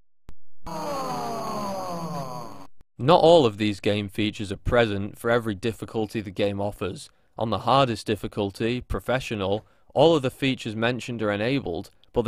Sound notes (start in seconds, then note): 0.7 spectators sighing